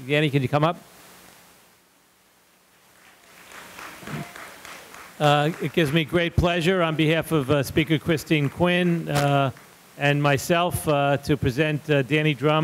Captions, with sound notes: Danny, could you come up? (audience applauding) It gives me great pleasure on behalf of speaker, Christine Quinn and myself to present Danny Drum